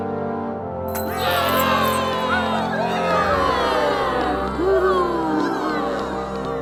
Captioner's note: slaves cheering